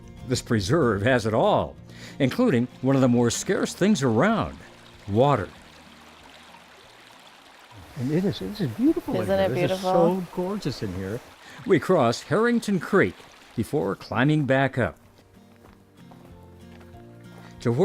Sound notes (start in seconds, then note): 5.9 water rushing; 14.1 upbeat instrumental music